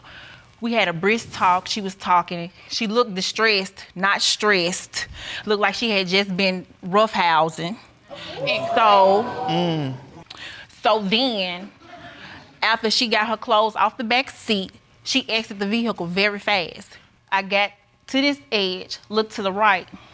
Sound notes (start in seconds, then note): 8.1 audience gasps